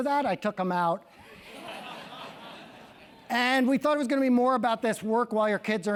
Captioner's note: laugh